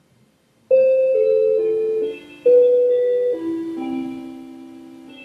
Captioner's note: clock chiming